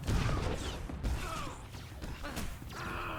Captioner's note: gunshots